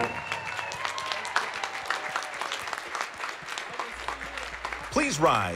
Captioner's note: applause